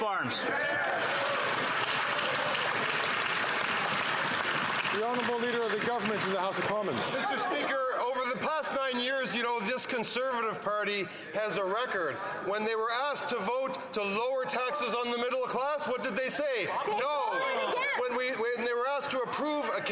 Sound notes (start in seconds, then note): 5.5 some Applause